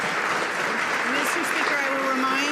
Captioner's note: some Applause